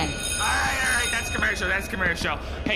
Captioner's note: the extra is cut off by a sound stage bell